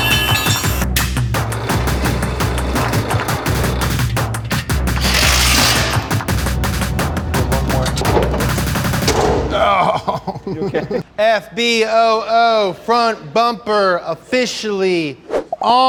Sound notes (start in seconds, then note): 0.2 metal clanging; 5.7 drill blatting